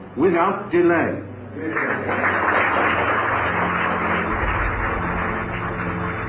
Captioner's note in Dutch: applaus